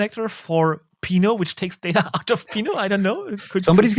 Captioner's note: chuckles